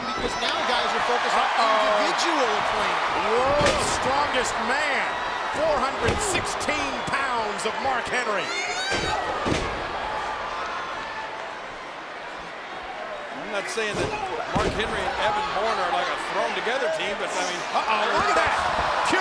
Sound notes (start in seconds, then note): 8.7 Tamina yelling